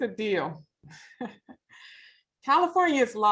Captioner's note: chuckles